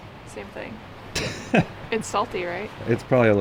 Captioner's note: laughing